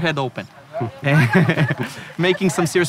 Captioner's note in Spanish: risas